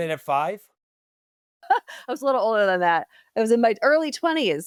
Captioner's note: laughs